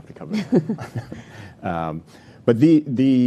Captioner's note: laughing